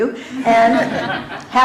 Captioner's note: laughter